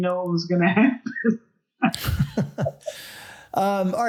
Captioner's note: both laugh